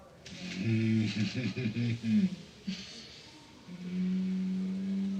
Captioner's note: chuckling